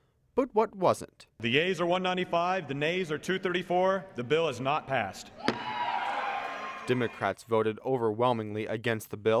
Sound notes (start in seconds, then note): 5.3 audience cheers